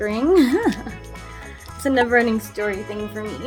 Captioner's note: laughs